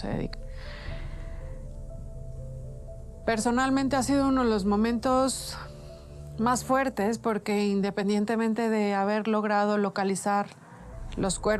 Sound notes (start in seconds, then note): 5.7 deep breath